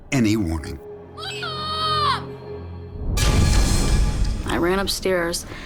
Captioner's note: screaming